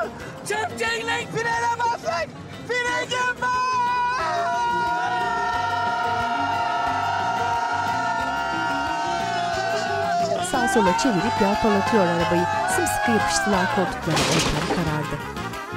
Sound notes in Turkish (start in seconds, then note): 6.9 Bağırma sesleri; 14.0 Kaza sesi